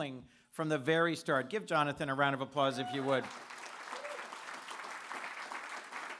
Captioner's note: applause